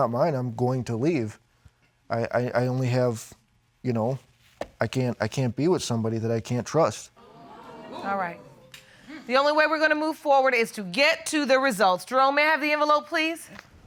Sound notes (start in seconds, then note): 7.2 audience exclaiming